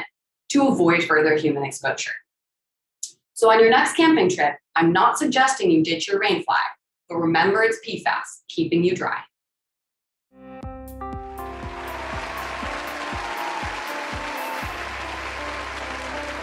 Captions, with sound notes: to avoid further human exposure. So on your next camping trip, I'm not suggesting you ditch your rain flag, but remember it's PFAS keeping you dry. (upbeat music) (audience applauding)